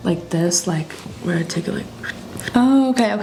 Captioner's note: tiny wooshing sounds